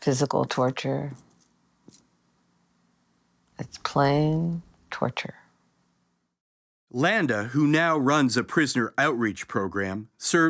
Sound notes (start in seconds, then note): none